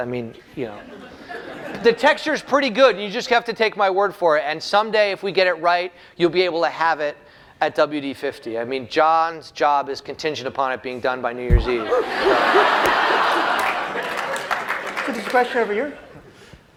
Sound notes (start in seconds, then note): 11.8 laughter